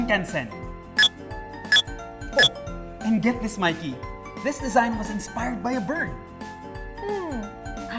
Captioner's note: MindBlower beeps